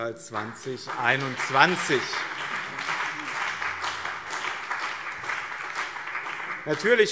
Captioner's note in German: Beifall BÜNDNIS 90/DIE GRÜNEN und CDU